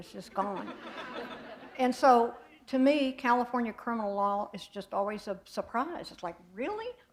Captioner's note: laughter